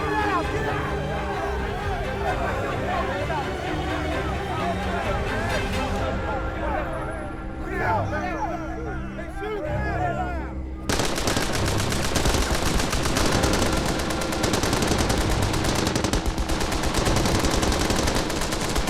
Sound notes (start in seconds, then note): 3.0 prisoners chattering; 10.9 guns firing